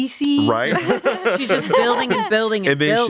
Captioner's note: everyone laughs